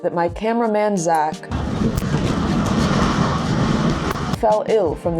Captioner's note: giant ball clattering